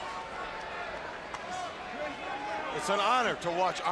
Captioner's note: crowd chatter